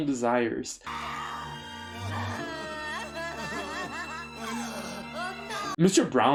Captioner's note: screaming and crying